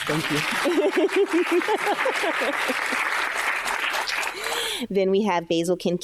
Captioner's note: audience applauding; chuckling